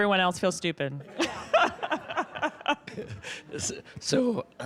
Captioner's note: audience laughing